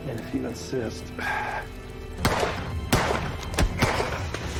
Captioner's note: sighs; gunshots